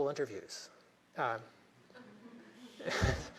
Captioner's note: laughter